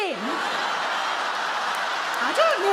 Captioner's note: audience laugh